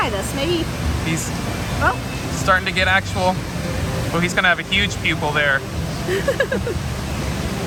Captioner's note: laughs